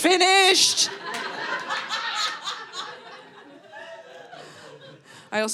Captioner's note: audience laughing